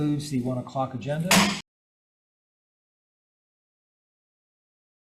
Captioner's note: gavel thuds